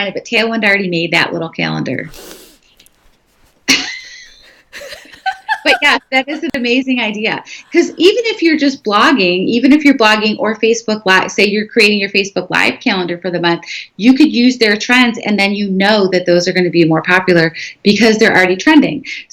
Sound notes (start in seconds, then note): 3.7 laughing